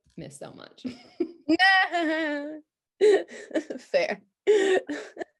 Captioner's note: both laughing